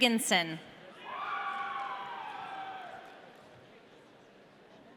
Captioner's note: audience cheering